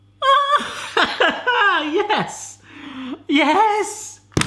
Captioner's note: laughs